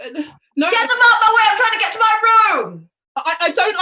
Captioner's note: shouts from off